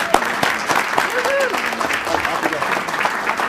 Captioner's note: applauding